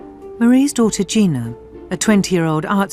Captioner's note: voiceover